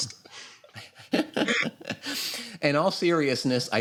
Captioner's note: laughter